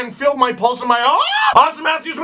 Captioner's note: screams